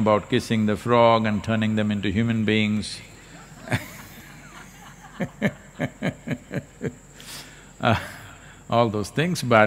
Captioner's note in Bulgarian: смях в публиката